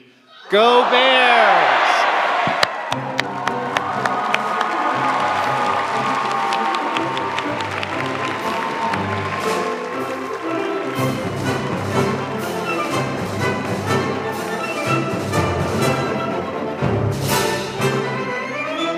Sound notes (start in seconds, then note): 3.6 crowd applauds; 7.1 upbeat orchestral music